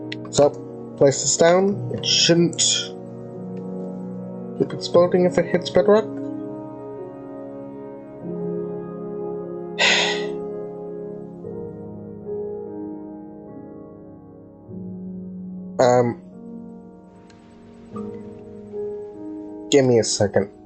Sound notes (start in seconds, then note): 9.8 sigh